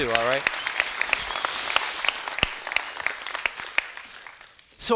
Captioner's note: students clapping